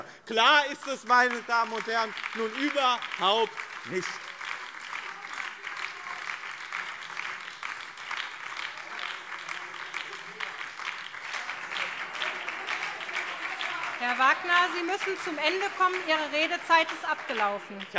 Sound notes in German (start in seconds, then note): 4.3 Beifall BÜNDNIS 90/DIE GRÜNEN und Freie Demokraten